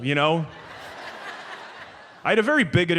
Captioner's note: audience laughs